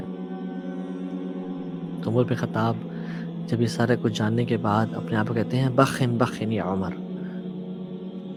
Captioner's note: arabic